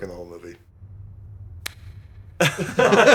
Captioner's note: slap